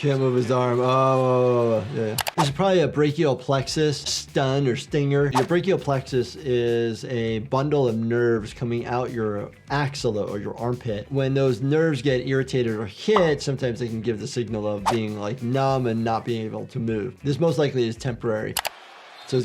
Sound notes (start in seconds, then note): 2.2 video clicks; 2.4 audio whooshes; 5.3 audio whooshes; 14.8 audio whooshes; 14.8 graphic pops; 18.5 video clicks